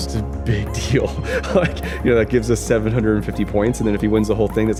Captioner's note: chuckles